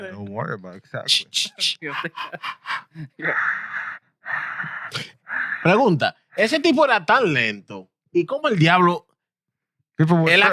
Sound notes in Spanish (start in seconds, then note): 3.7 Respirando agitadamente; 3.7 Riendo; 5.2 Hablando en idioma extranjero